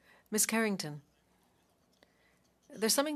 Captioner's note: speaking French